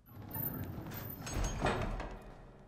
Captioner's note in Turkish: Ayak sesi; Kapı kapanma sesi